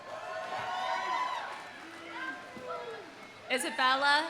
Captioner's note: audience cheering; audience applauding